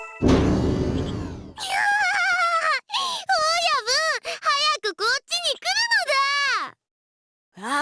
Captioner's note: laugh